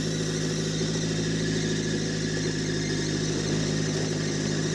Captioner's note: engine rumbling